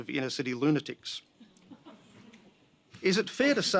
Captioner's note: laughter